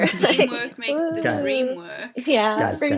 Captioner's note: laughs